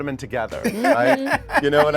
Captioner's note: Billy laughs